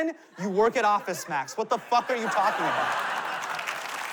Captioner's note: laughter